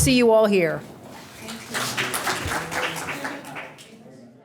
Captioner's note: applause